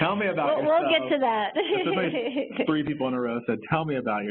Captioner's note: laughs